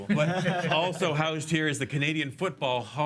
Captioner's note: loughs